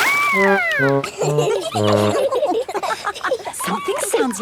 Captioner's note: all laughing